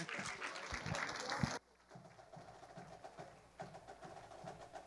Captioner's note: audience applauding